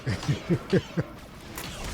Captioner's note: laughs